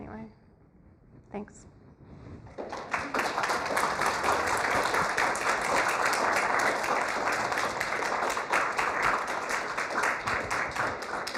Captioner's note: applause